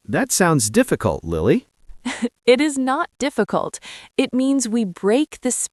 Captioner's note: laughs